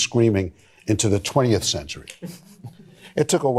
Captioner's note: laughter